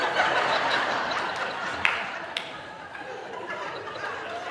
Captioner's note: audience laughing